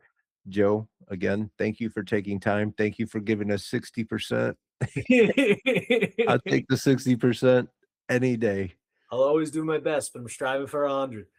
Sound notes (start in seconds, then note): 4.8 laughing